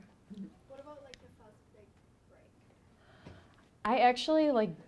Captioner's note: woman mumbling